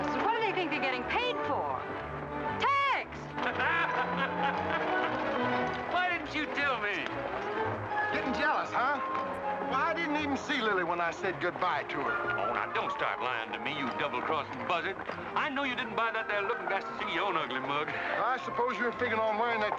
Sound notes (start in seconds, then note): 3.3 men laughing